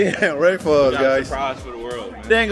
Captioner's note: laughs